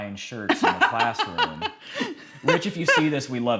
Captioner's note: laughing